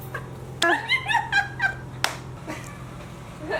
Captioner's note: laughs